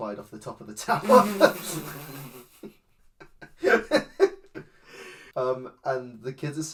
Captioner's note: laughs